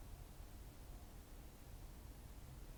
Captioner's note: none